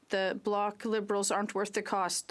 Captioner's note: speaking French